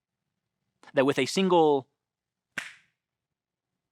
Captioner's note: fingers snapping